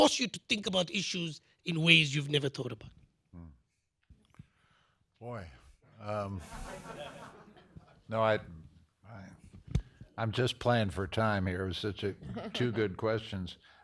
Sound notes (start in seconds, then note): 6.4 laughter